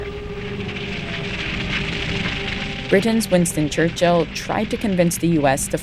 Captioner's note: soundbite of fire crackling